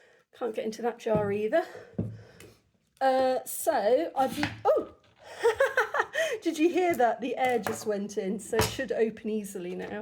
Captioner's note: pop; laughter